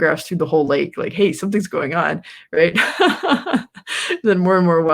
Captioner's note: laughs